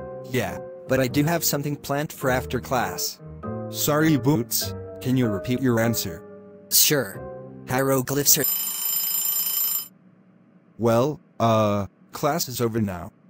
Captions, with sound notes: Yeah, but I do have something planned for after class... Sorry Boots, can you repeat your answer? Sure. Hieroglyphs are- (Bell ringing) Well, uh, class is over now.